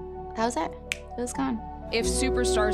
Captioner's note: fingers snapping